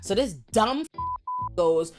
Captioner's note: beep